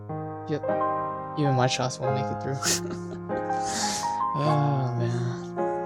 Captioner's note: laughter ensues